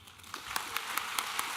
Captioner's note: audience applauding